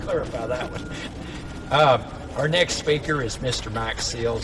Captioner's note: laughing with audience